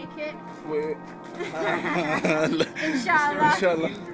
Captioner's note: laughter